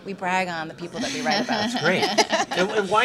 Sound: laughing

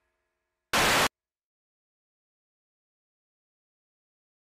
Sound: static crackling

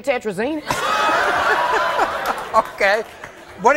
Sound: audience laughing

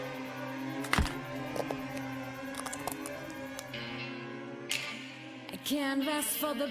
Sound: heel thuds; screen cracks

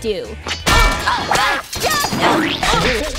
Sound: groaning

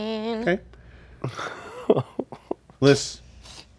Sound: laughs

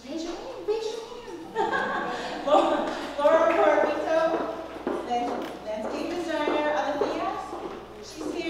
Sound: laugh

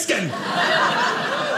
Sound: audience laughing

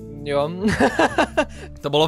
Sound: laughing

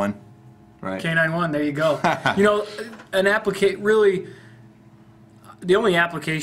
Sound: laughs

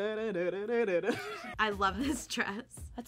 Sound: laughs

